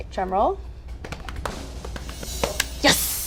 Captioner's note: hands thumping on her legs